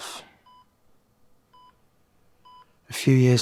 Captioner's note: heart monitor beeps